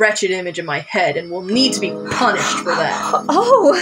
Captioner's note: sensual Music; heavy Breaths